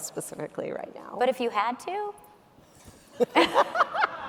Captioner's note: laughs; audience members laughing